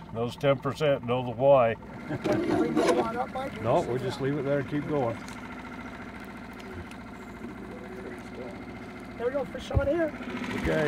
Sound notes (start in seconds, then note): 3.0 laughing